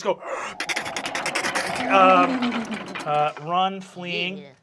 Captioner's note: bones clattering